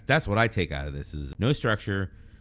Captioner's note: uh